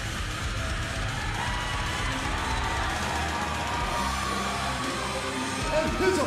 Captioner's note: crowd cheering